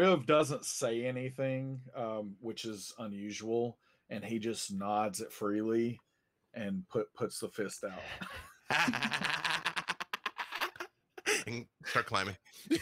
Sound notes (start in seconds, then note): 8.0 group laughing